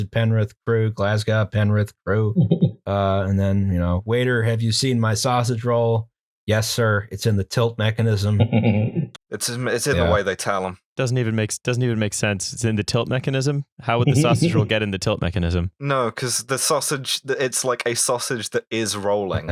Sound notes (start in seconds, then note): 9.1 flatly